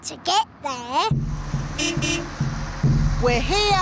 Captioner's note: horn beeps